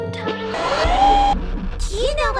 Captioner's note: static hissing